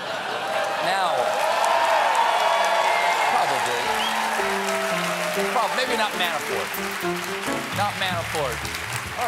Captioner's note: cheering; piano riff